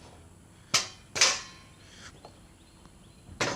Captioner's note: clanging sound